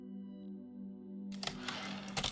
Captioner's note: typewriter return slide